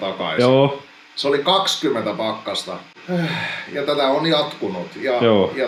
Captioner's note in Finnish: huokaisee